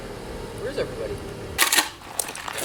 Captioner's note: car pulling up; shotgun pumped